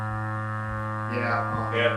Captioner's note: machine buzzing